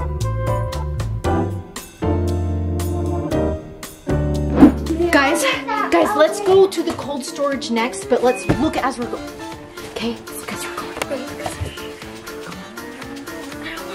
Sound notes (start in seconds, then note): 9.8 whispering; 11.4 shushing